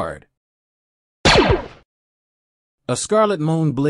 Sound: sound effect

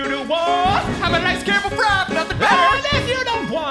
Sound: singing; yelling; singing

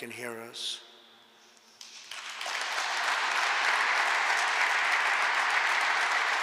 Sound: applause

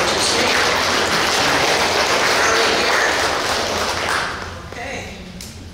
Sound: clapping

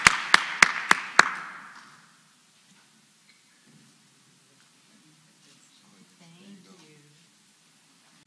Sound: applause

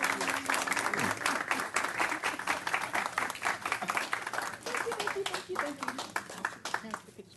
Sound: clapping

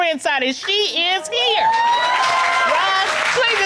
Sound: audience applauding

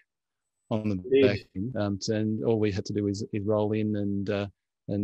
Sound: audio warps

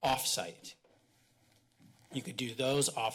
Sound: pause

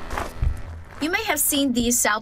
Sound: nats of worker walking

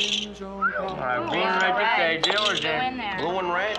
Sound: whistles

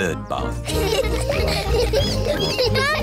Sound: all laughing

